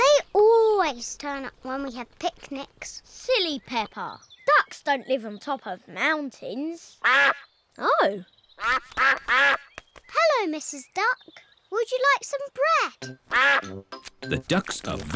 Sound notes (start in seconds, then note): 8.6 all quack